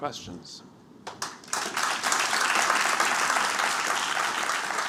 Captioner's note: applause